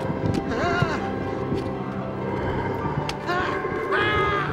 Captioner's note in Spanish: Gritando